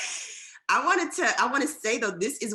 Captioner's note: laughter